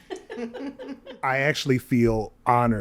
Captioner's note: guest and host chuckle